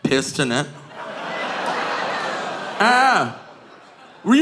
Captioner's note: audience groaning